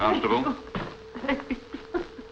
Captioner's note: crying